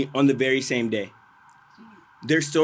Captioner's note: none